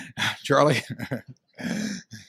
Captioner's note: laughs